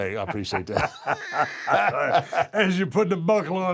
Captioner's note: laugh